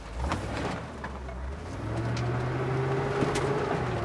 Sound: truck engine roaring

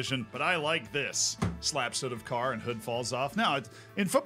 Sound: slaps table

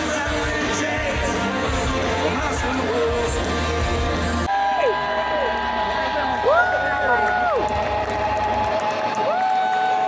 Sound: cheering

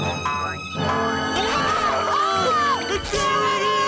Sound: screaming

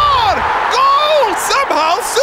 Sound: cheering

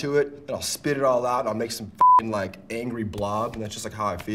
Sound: beep

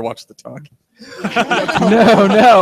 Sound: all laugh

